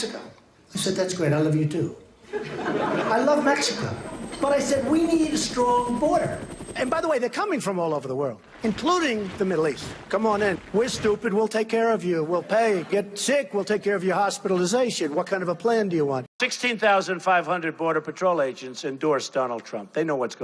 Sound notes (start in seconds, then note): 2.3 crowd laughing